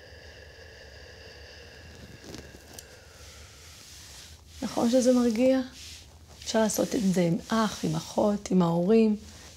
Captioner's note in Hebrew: שואפת ונושפת